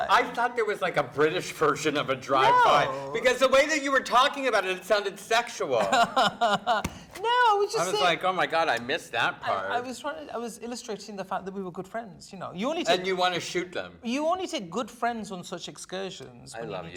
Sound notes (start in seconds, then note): 5.8 laughing